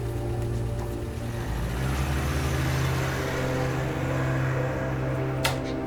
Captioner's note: car engine rumbling